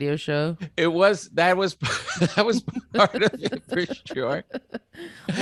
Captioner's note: laughing